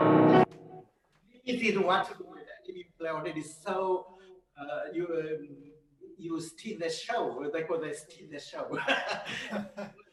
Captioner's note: laughs